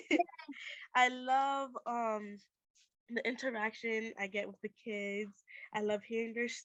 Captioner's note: laughter